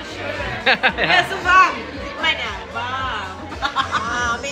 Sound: laugh

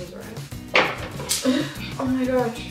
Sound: laughs

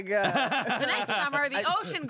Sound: everyone laughs

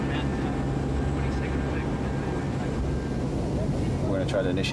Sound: plane engine drowning out speakers

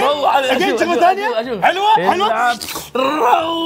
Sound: mimics slurping

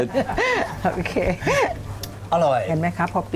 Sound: laughing

